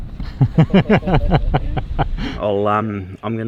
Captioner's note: laughing